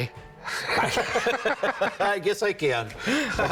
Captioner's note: both laugh